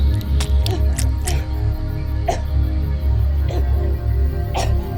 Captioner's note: intestines squelching; Donna choking